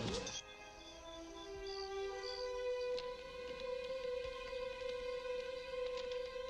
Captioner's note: low solemn music; crickets chirping